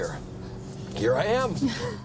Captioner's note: exasperated laugh